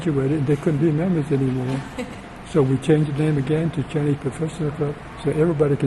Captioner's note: laughs